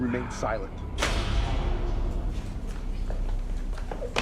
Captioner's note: metal door clanging